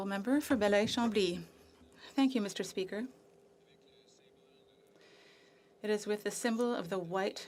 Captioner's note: speaking French